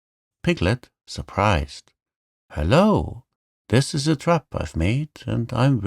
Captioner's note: surprised